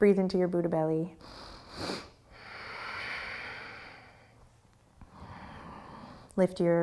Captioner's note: deep breathing